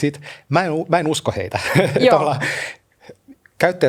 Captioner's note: laughter